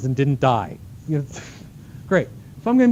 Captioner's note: laughing